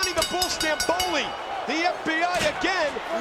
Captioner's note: bell rings